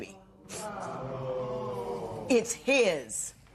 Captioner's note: spectators murmur